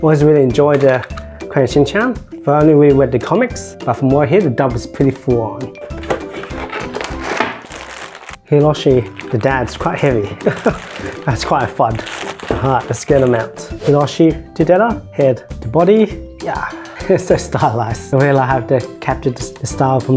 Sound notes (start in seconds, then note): 10.3 haha